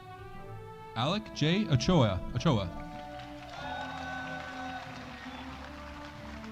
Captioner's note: audience applauding